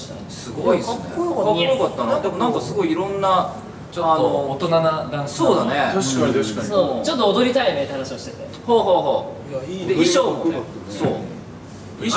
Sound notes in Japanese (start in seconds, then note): none